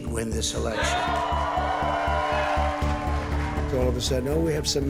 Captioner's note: audience cheers